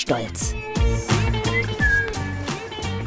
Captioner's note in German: pfeift